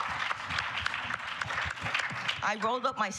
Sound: applause

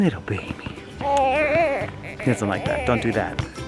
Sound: baby fussing

